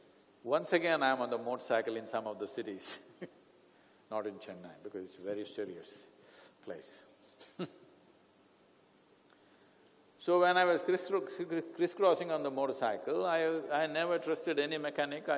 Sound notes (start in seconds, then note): 3.5 laughs; 9.2 laughs